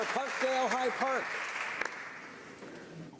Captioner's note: some Applause